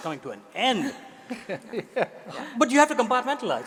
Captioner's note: audience laughing